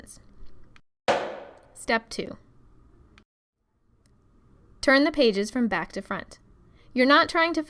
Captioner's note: loud footstep